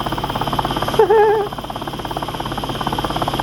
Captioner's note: laughs